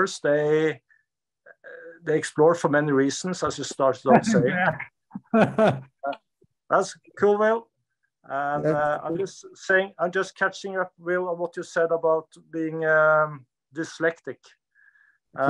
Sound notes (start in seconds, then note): 5.2 laughs